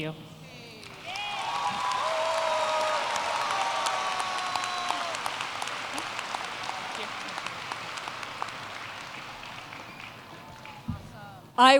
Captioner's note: applause